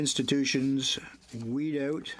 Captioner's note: speaking in french